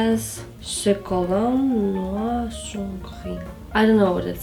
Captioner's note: French